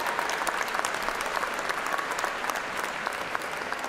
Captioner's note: cheers and applause